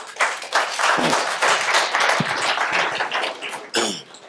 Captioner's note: applause